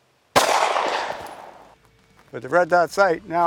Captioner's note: gunshot fired